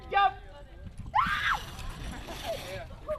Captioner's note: screaming